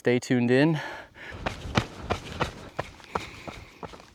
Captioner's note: footsteps